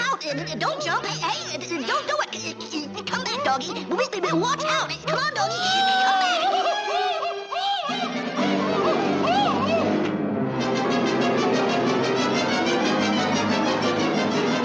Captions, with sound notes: - Look out! Don't jump! Hey! Hey! Don't do it! Come back, Doggie! Wa-watch out! (Rover screaming) Come on, Doggie! Come back! (Rover screaming) (dramatic music)